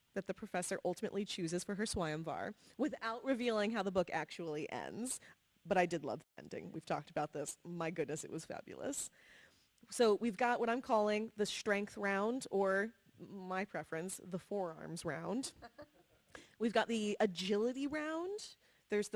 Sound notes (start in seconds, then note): 15.5 laughing